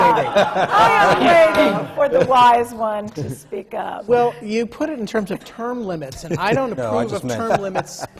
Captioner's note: laughter